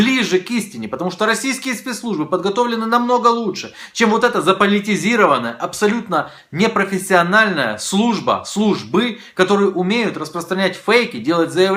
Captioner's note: Ukrainian